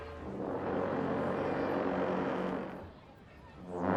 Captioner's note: horns blowing